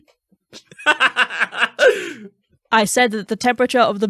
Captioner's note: cackling